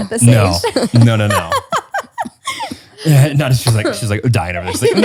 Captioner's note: laughs